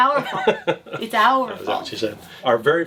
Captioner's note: laughing